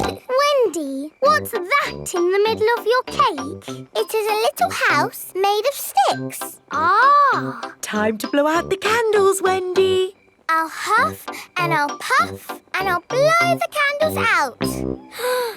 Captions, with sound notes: (SNORTS) Wendy, what's that in the middle of your cake? It is a little house made of sticks. Ah. Time to blow out the candles, Wendy! I'll huff and I'll puff and I'll blow the candles out!